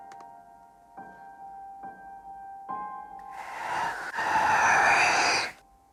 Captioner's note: whisper